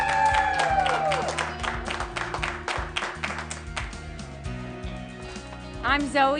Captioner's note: cheering